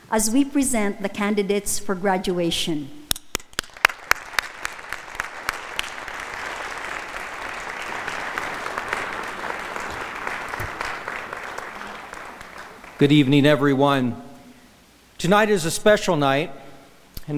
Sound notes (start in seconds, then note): 3.1 audience applauding